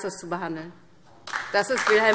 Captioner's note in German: Beifall